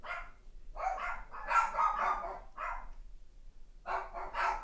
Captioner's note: dogs barking